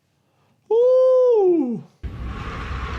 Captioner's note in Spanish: Dolor ajeno expresado vocalmente como “Wuuuu”